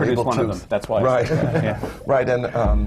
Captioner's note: laughter